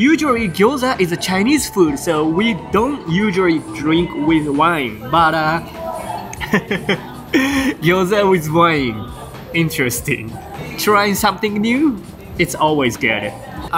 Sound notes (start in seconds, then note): 5.7 chuckles